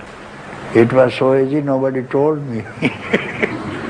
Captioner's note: laughter